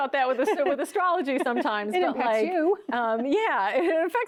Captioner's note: chuckles